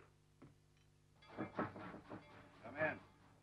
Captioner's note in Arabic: طرق الباب